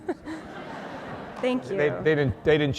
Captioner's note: laughter